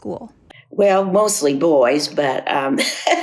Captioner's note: laughs